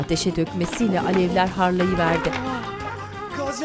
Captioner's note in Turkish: Alev sesi